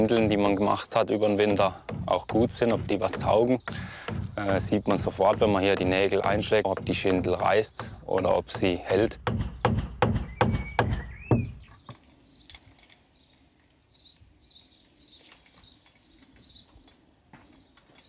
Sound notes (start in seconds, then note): 9.6 loud banging; 11.7 birdsong